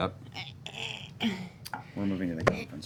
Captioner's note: straining